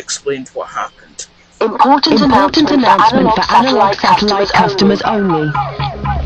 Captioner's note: echoing